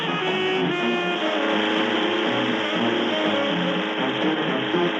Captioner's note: boat engine rumbling